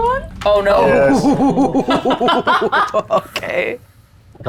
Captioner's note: laughs